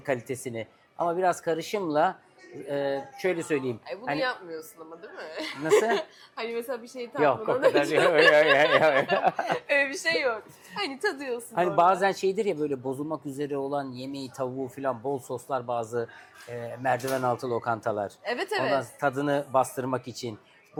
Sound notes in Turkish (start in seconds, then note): 5.4 kahkaha